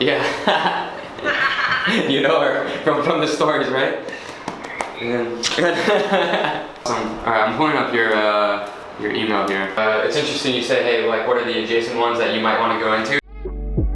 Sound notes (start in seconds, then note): 5.4 both laughing; 13.7 lively music